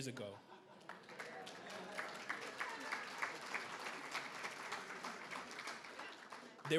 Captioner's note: everybody applauds